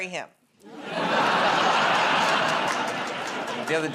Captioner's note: laughter